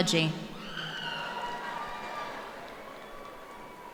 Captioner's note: applause